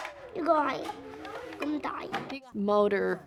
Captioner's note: speaking in a foreign language